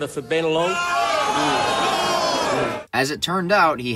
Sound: the crowd expresses grief, frustration, and/or dissatisfaction with the news

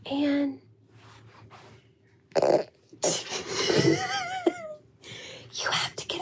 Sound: both laughing

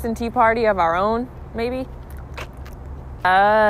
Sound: chomps softly

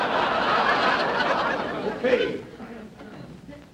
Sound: coughs

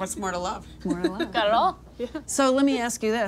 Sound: giggles

